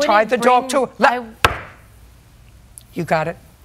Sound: raps gavel

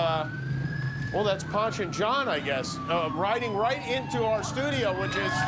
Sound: sirens

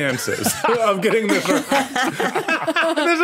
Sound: group laughing

